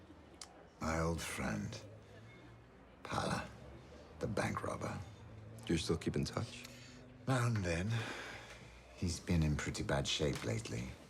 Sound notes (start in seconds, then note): none